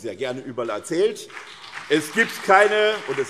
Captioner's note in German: Beifall